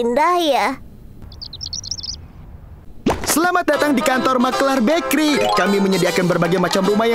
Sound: birds chirping

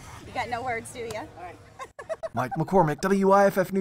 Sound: laughter

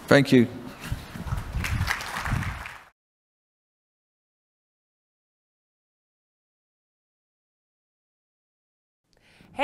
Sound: applause

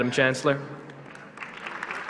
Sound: applause

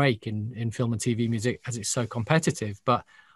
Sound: none

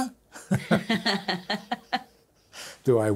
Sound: both laughing

